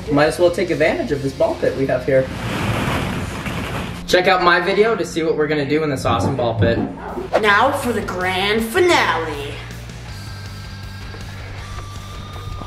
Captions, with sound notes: Might as well take advantage of this ball pit we have here. (balls rustle) Check out my video to see what were gonna do in this awesome ball pit. - Now, for the grand finale.